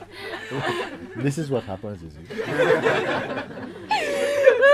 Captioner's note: laughter